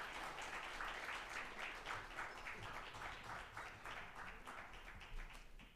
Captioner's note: applause